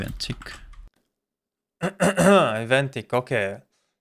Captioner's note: clear throаt